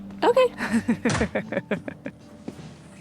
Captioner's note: laughing